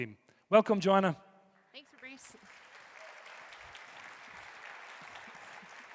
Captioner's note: audience applauding